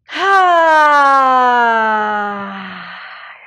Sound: sighs

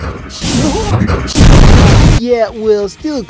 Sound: explosion

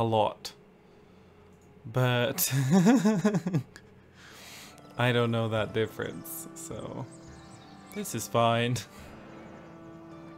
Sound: strange laughter

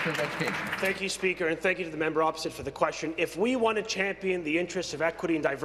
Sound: applause

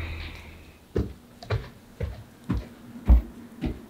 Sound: stomping

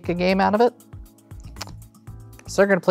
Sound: card slaps on table

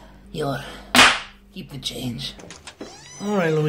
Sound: smack

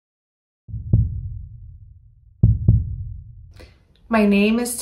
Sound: heart beating

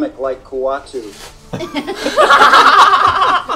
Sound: all laugh

